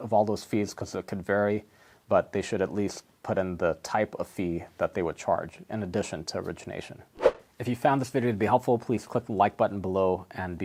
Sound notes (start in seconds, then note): 7.1 air whooshes